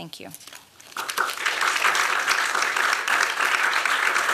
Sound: applause

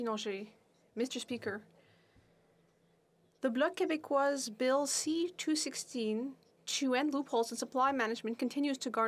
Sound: speaking French

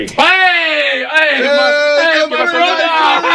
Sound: cheering

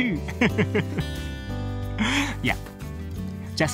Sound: laughs

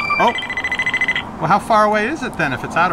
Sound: multiple beeping

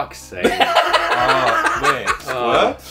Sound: laughs

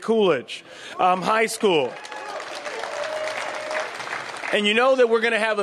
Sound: applause

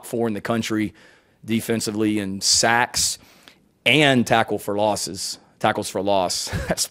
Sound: gasping

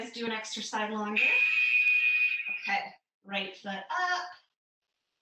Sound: alarm blares

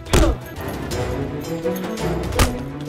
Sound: dramatic music; grunting; dramatic music

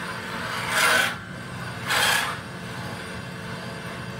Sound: metal screeching

